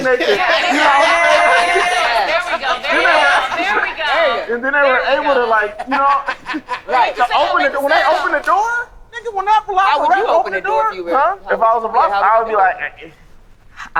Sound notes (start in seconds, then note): 3.9 group laughing